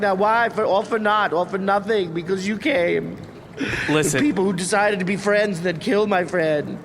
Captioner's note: tearful